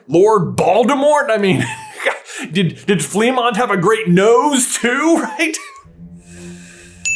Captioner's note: laughs